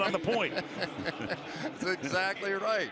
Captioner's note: laughter